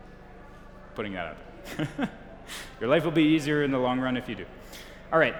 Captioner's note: chuckles